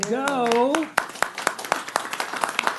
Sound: applause

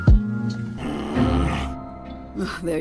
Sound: frustrated groan

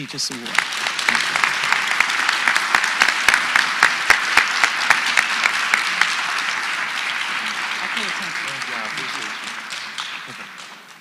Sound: applause

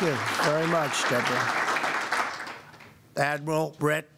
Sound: applause

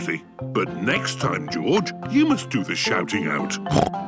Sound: snorts

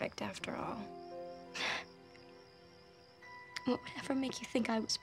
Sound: scoffs

